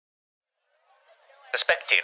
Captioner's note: radio Voice